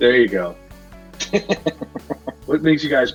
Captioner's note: laughs